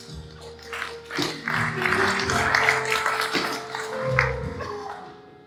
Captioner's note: applause; jazz piano continues